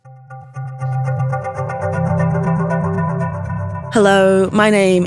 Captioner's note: atmospheric sound effects